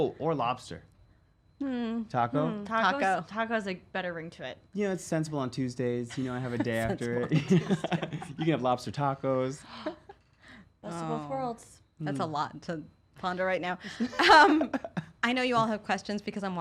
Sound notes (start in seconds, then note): 6.2 laughs; 13.9 laughs